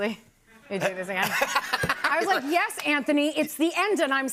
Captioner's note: laughter